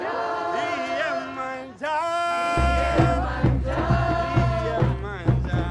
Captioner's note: crowd